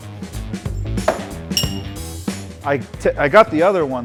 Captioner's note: star thudding